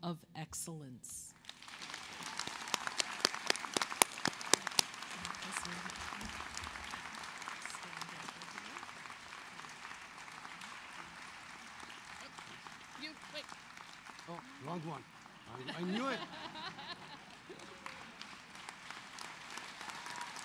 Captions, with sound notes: ANNOUNCE DR. CLAIRE POMEROY AS THE RECIPIENT OF THE 2019 COOPER MEDICAL SCHOOL OF ROWAN UNIVERSITY MEDAL OF EXCELLENCE EXCELLENCE. [APPLAUSE]